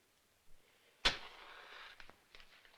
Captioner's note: lighting match